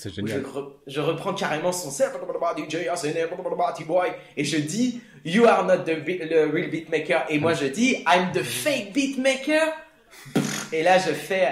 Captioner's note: beatbox